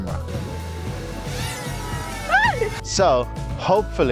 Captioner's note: drone buzzes. screams off-screen